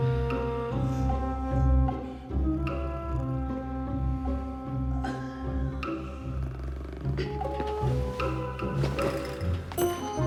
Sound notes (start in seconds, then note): 6.3 snoring